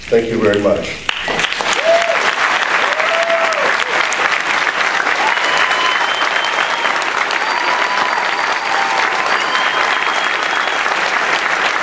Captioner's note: applause